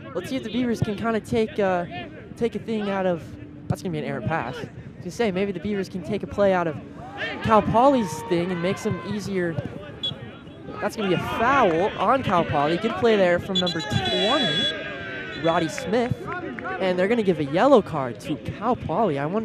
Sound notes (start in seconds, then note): 10.0 whistle blows